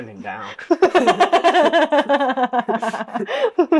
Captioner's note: laughter